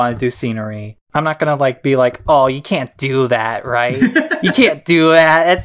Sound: laughs

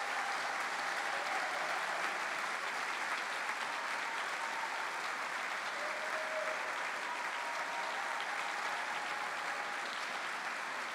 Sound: cheering

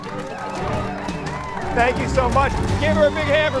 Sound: crowd cheering

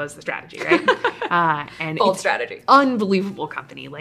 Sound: laughing

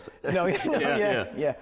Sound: laughs

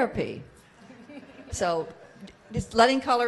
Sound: audience laughs

